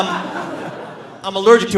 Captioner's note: audience laughing